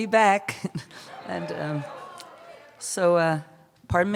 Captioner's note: cheers